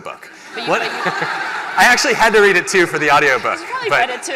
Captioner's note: laughter